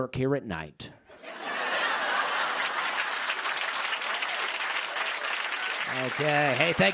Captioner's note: laughter and applause